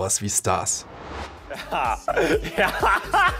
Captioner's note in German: Lachen